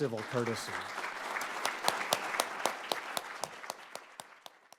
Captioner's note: audience applauding